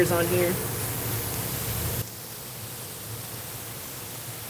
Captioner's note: sizzling